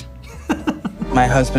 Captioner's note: Dan laughs